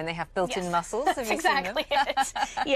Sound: laughter

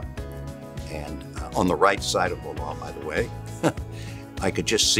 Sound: laughing

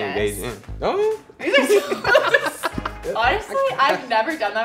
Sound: laughs

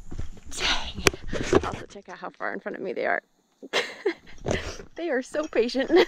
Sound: laughter

